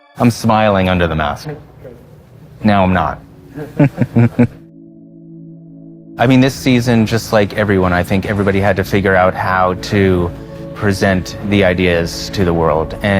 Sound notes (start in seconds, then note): 3.4 chuckles